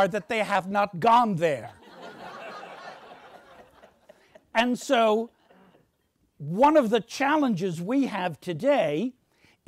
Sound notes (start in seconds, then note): 1.8 audience laughs